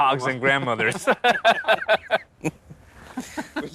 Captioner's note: laughs